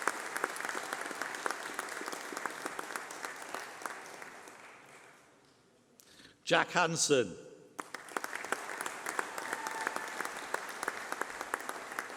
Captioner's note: applause